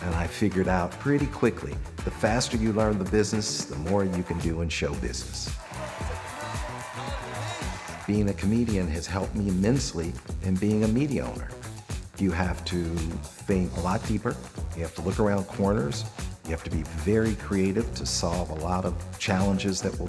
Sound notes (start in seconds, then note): 5.5 audience cheering; 5.5 audience applauding